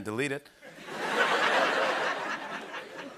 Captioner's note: laughter